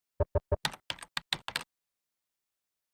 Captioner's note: typing sounds